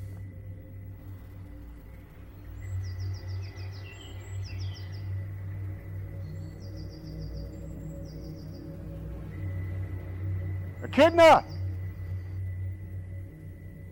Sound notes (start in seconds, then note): 3.0 birds chirping